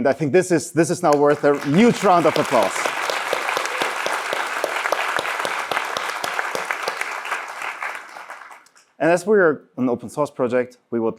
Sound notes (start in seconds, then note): 2.7 applause; 3.5 cheering